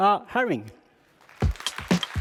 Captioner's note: applause